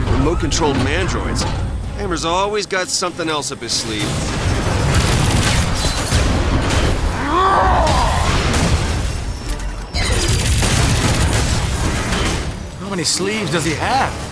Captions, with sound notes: Remote-controlled mandroids? Hammer's always got something else up his sleeve. [SNARLING] How many sleeves does he have?